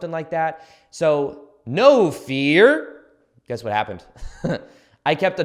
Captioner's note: chuckles